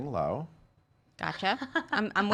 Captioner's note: laughs